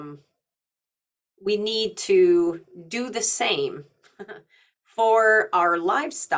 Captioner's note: chuckling